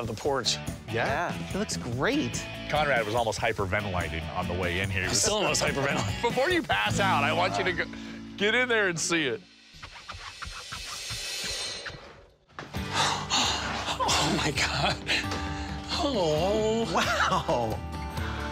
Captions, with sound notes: Yeah. It looks great. Conrad was almost hyperventilating on the way in here. Before you pass out, I want you to get in there and see it. [both gasping] -Oh, my God. Oh. -Wow.